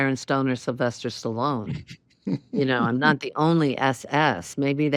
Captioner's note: laughs